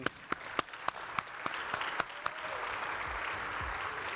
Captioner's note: audience applauding